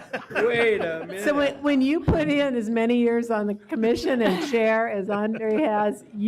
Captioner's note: laughter